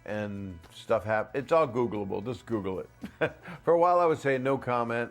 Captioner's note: laughs